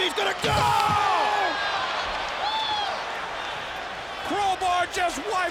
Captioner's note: audience cheering